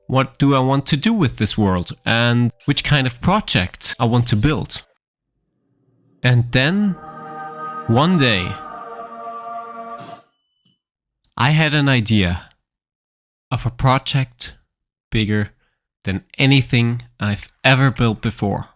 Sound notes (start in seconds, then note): 6.1 angelic music; 10.2 explosion ringing